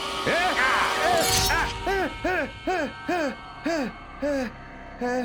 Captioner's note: screams